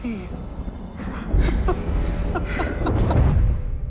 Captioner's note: laughs